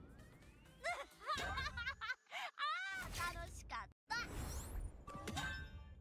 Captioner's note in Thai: เสียงหัวเราะ